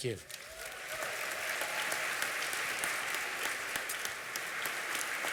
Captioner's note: applause